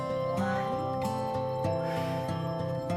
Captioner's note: exhale